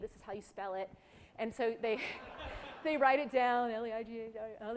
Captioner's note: laughs